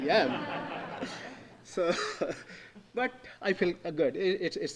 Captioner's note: audience laughing